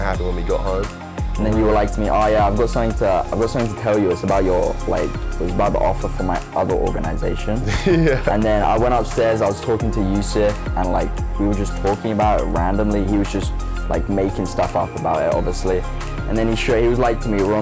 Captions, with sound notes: to happen when we got home. - And then you were like to me, "Oh yeah, "I got something to tell you. "It's about the offer for my other organization." (laughs) And then I went upstairs. I was talking to Yusef and we were just talking about it randomly. He was just making stuff up about it, obviously. And then he was like to me,